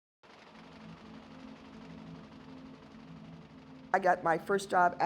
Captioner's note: printer chugging